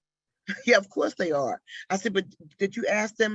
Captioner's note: chuckles